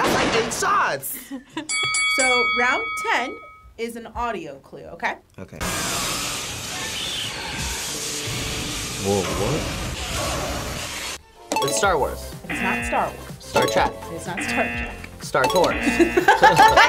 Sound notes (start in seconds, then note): 1.6 bell dings; 6.5 static and lasers shooting; 11.0 bell dings; 12.4 klaxon sounds